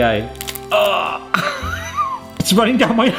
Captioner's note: laughs